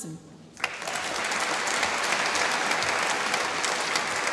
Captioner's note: applause